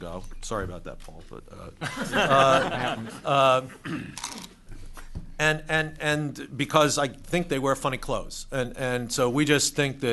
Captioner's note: laughter